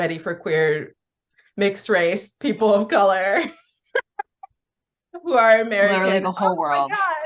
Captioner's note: laughs